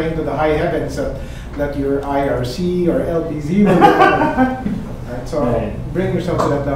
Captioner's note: laughing